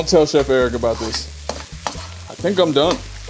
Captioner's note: wok sizzling